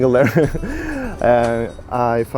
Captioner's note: laughs